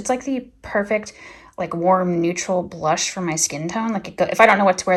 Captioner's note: none